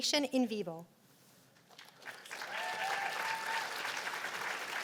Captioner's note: cheers and applause